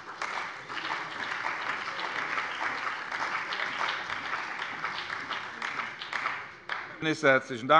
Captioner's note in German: Beifall bei der CDU und dem BÜNDNIS 90/DIE GRÜNEN